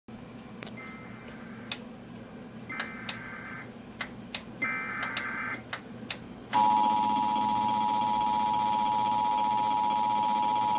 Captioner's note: emergency alert system beeping